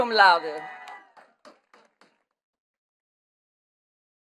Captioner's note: attendees clapping